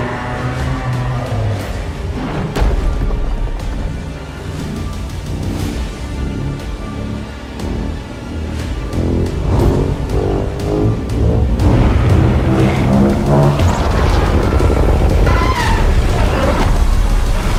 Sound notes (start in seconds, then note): 4.0 Godzilla Atomic Breath Charging